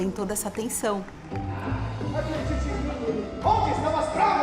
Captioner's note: muffled sound of audience applause